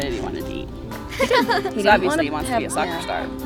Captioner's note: laughing